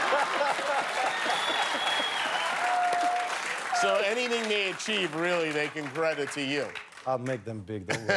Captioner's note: cheers and applause